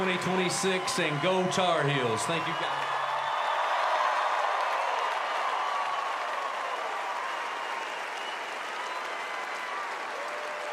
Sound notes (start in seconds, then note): 0.0 cheers and applause